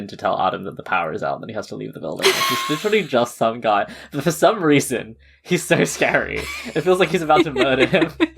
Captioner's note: laughs